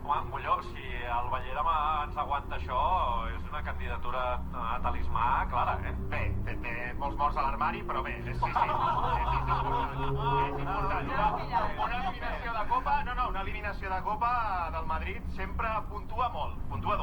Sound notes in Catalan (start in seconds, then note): 8.4 carcajadas